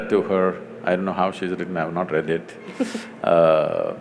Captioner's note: Barkha Dutt laughs